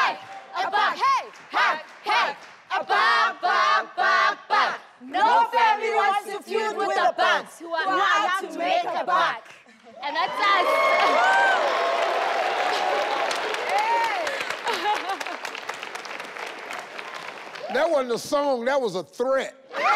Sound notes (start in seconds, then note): 10.1 audience cheering and applauding; 14.2 laughing